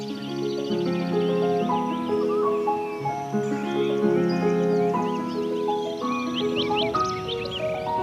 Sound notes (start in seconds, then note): 0.0 birds chirping; 0.0 enchanting music